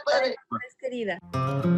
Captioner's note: speaking spanish